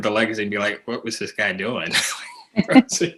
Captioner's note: laughter